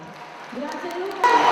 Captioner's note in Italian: Applauso